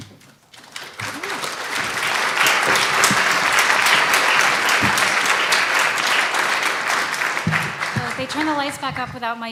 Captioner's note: applause